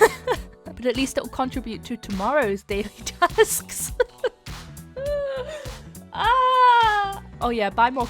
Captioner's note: laughs; laughs